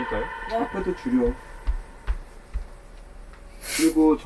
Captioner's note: sound of back tapping